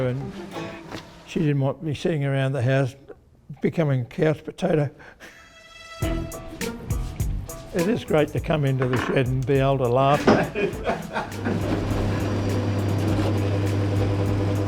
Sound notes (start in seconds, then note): 10.1 laughs